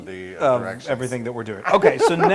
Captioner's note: laugh